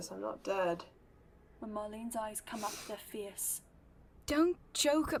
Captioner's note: Marlene sniffles